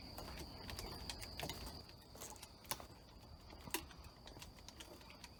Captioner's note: footsteps tapping